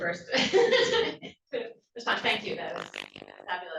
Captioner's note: laughs